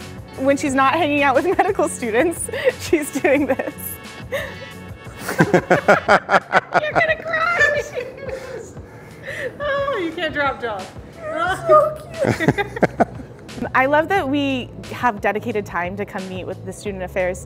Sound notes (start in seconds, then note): 5.1 laughter